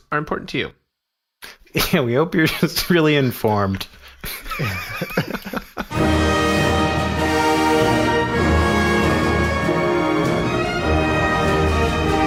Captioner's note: laughter